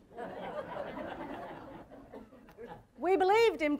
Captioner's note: audience laughter